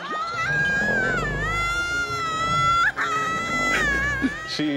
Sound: screams; laughs; dinosaur roaring

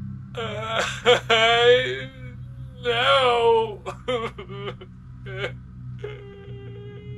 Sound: crying

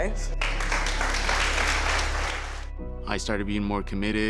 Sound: applause

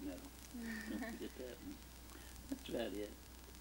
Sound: laughs

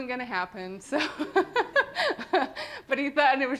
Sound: laughter

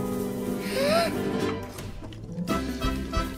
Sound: gasps

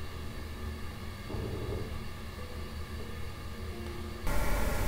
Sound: radio noise hissing

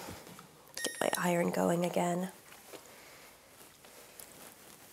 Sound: iron beeps

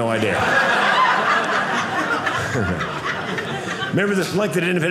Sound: audience laughing

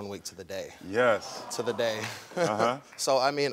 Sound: laughs

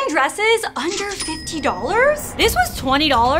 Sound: cash register chings

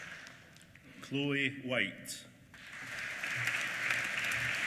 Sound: applause

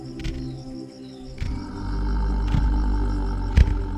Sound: growling

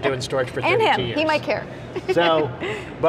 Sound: laughs

